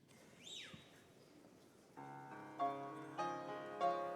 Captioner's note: man whistling; gentle music